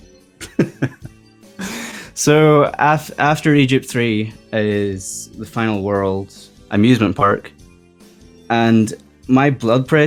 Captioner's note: laughs